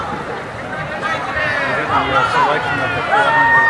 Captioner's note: murmuring